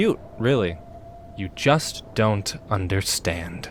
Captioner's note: none